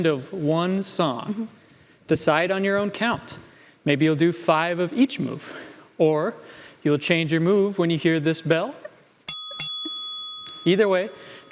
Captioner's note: ding ding!